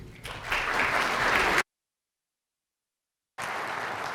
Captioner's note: applause